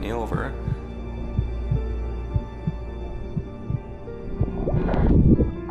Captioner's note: heartbeat